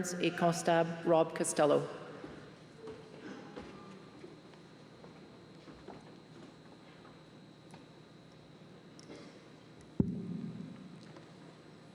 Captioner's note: speaking french